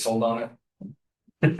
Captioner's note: laughter